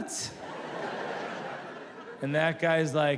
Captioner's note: audience laughs